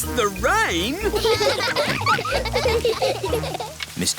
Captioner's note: all laughing